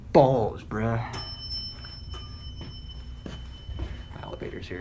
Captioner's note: elevator dings